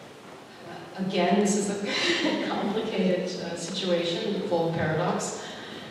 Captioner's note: chuckles